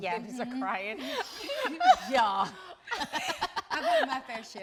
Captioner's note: laughing amusingly